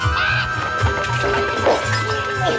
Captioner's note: raven cawing; wood rattling; glass shattering